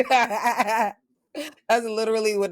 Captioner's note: laughter